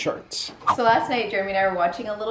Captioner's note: air whooshes